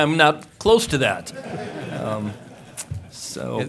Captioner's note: laughter